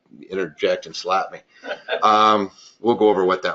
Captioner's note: laugh